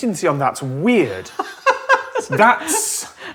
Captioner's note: giggles